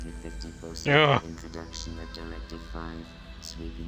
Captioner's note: grumble